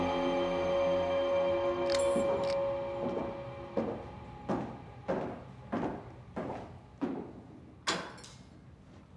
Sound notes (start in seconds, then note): 1.4 lights switching on; 2.9 footsteps